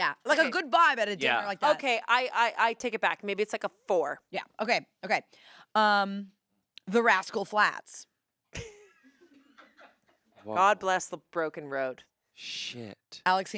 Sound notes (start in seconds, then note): 8.5 laughs